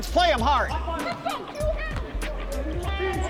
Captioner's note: game hubbub